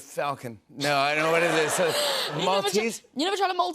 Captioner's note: laughter